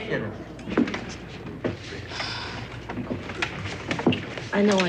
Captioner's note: Julie sighs